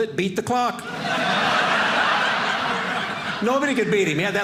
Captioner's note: audience laughing